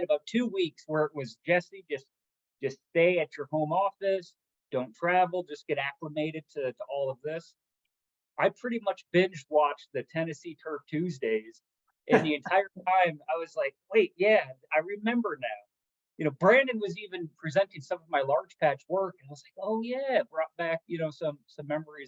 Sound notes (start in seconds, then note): 12.1 laugh